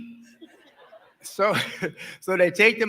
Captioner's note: laughing